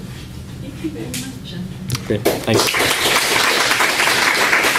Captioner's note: applause